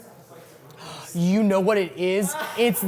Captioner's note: gasps; laughs